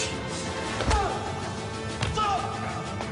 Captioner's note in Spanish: Golpes; Quejidos; Golpes